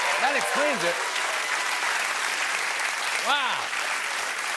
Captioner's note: cheers and applause